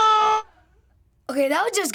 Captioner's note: silence